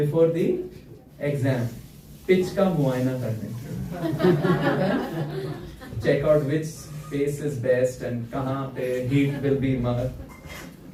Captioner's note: laughter